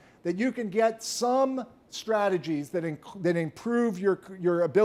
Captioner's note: none